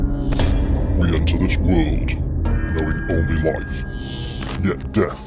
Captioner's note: distorted Voice